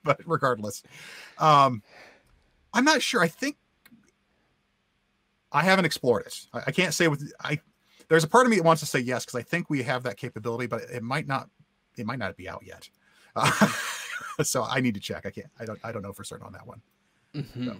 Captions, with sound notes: But regardless, I'm not sure, I think, I haven't explored it. I can't say, there's a part of me wants to say yes because I think we have that capability, but it might not be out yet (laughs). So I need to check again, I don't know for certain on that one.